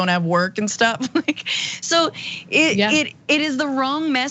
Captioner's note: laugh